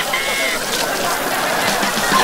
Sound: laughing

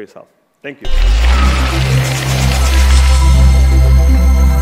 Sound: applause

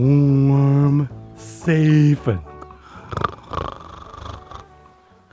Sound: Sam snores

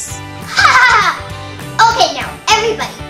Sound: laughs

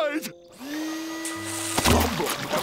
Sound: vacuum cleaner sound

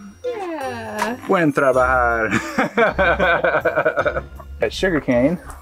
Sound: speaking in foreign language

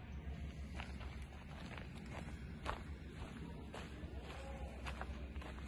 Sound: footsteps, leaves crunching

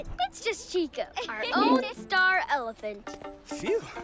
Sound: laughs

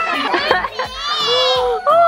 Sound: laughing

